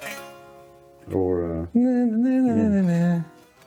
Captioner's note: humming